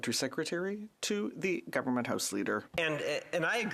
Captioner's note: speaking French